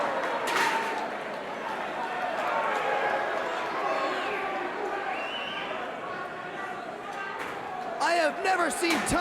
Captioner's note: crowd cheering